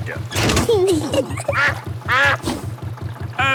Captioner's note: kids giggling; level clangs; quacks